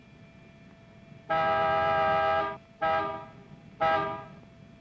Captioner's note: horn honking